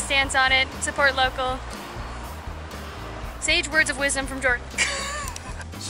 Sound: laughter

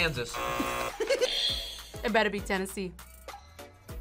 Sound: buzzer rings; buzzer; React laughs

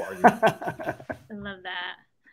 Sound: laughs

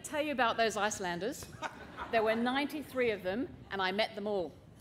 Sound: laughter

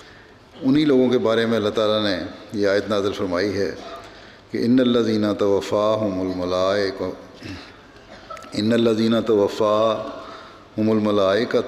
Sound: Arabic

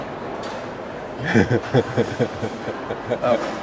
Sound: laughing

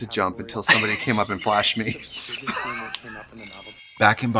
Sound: Katya laughs

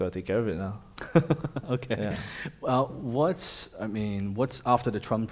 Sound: laughing

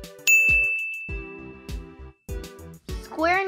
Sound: ding!

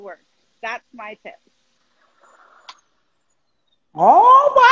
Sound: humming

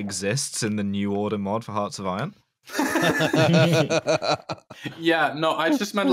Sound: laughter

